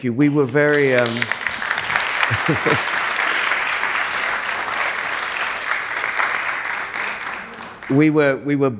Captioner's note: audience applauds